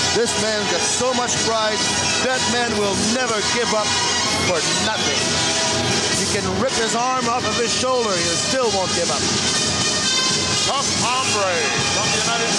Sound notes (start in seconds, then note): none